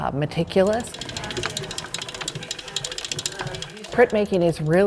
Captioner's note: metal gears click